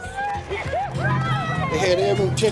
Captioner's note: crowd cheering